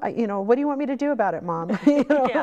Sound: laughing

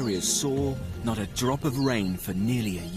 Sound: rain pelts against ground

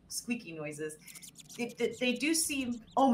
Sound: squeaking

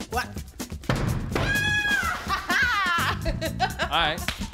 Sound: shouting in victory

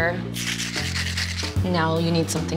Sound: mixer rattling

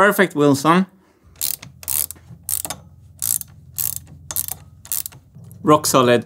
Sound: ratcheting

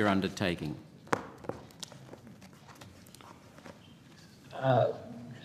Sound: papers shuffling

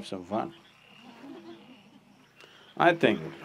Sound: laughter

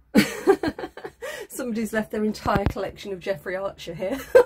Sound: laughing

